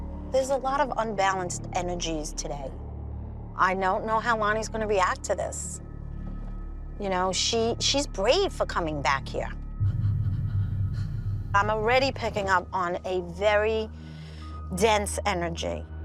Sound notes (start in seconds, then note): 9.8 eerie whispering